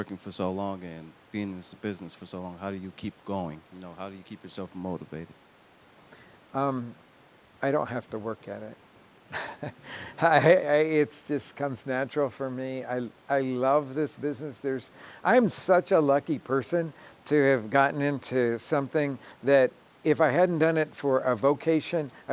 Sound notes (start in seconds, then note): 9.3 chuckling